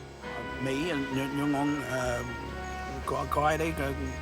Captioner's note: speaking laotian